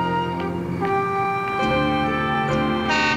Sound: honks

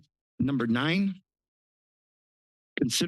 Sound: pause

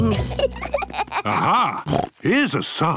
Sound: children giggling; snorts

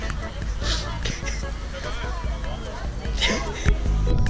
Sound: laughs in terror and pain

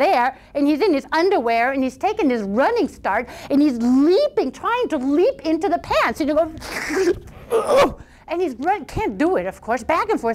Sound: crash - rip

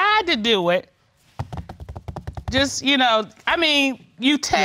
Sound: tapping fingers

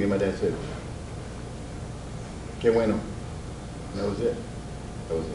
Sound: speaks Spanish

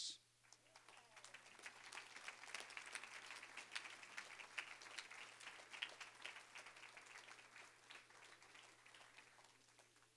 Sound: applause

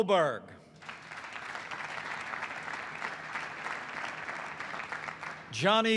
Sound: applause

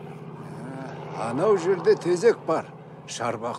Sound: speaks Uzbek

